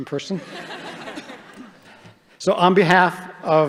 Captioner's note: audience laughing